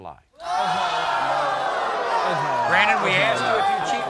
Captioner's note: audience oohs